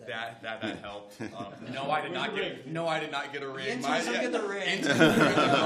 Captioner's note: laughter